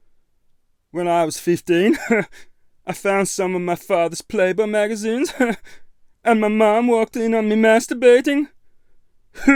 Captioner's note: chuckle